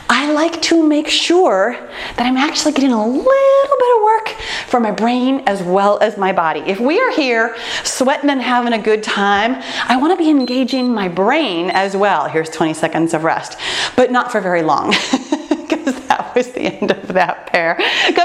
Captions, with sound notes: I like to make sure that I'm actually getting a little bit of work for my brain as well as my body. If we are here sweating and having a good time, I wanna be engaging my brain as well. (timer beeps) Here's 20 seconds of rest. But not for very long, 'cause that was the end of that pair.